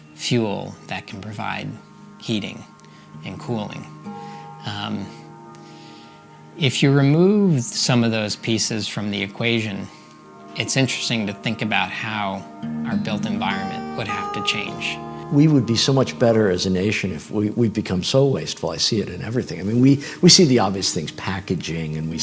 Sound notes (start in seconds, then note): none